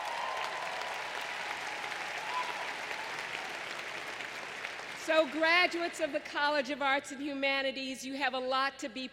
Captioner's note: applause